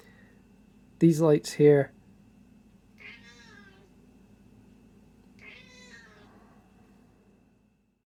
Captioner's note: meow!